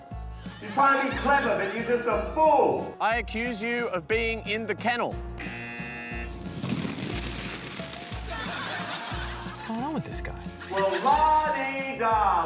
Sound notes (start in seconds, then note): 5.4 buzzer; 8.2 laughter